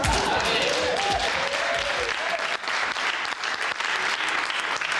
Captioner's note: cheering and applause